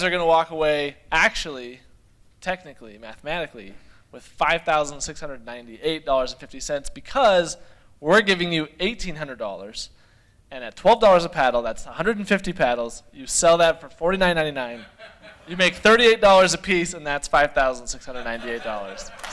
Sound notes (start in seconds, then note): 14.7 laughter